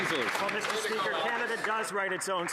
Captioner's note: some Applause